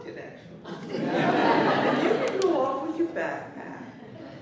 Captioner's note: laughter